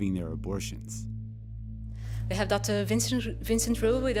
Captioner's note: soundbite of archived recording